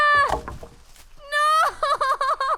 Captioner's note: wood drops